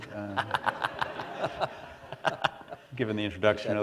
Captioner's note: laughter